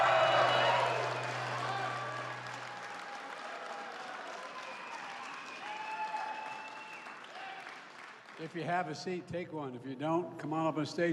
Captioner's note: applause